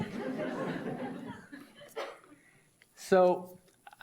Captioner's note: audience laughs